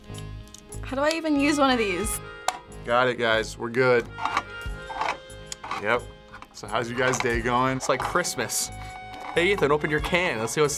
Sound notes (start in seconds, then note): 4.1 can opener connects